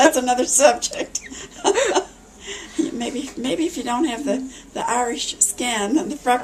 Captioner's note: laughs